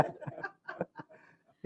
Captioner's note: laughter